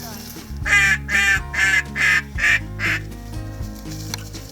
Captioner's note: imitates duck call